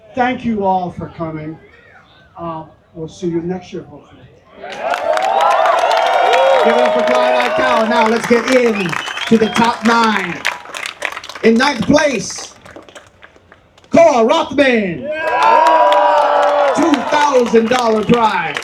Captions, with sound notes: Thank you all for coming. We'll see you next year hopefully. [Applause] Give it up for Clyde O'Callan. Now let's get in to the top nine. In ninth place, Cor Rockman. $2,000 prize.